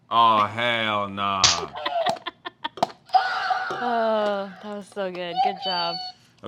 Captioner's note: laughs